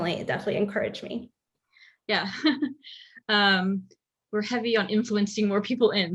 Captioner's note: laugh